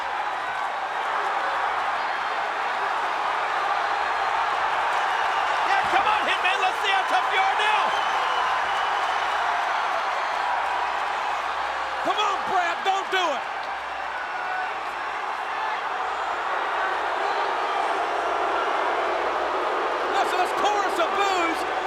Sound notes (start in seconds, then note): 0.1 crowd yelling; 7.9 crowd cheering; 16.3 crowd booing